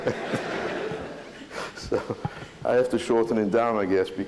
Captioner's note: laughter